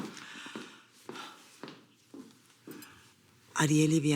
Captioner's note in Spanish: Pasos que se alejan